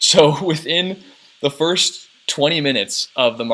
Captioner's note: chuckles